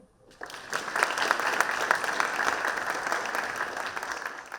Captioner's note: audience claps